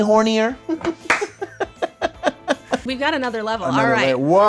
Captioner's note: laughs